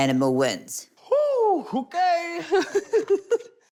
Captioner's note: laughs